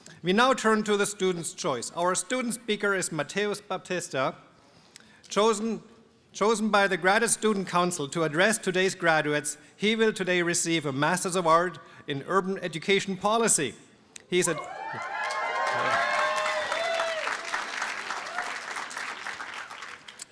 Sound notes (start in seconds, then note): 14.6 applause and cheering